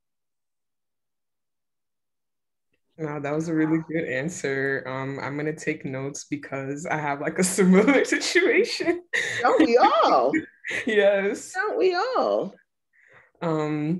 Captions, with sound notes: - Now, that was a really good answer. I'm gonna take notes because I have like a similar situation. - Oh yeah. - Yes (laughs)